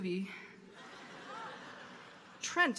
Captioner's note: audience laughing